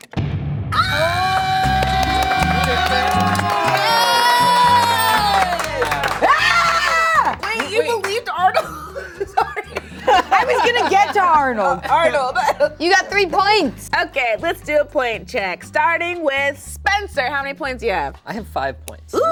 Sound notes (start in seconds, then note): 0.7 group yelling; 1.1 group clapping; 1.4 muted drum beat drops; 3.7 group cheering and clapping; 6.2 group clapping; 6.2 shrieking; 9.7 laughs; 10.3 group laughing; 12.5 chuckles